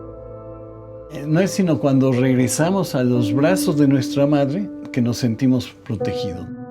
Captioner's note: continues in Spanish